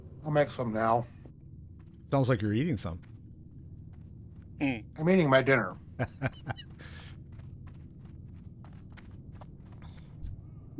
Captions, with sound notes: I'll make some now. Sounds like you're eating some. I'm eating my dinner. [LAUGHS]